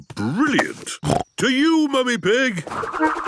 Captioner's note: snorting